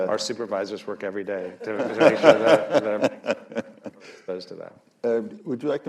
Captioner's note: laughter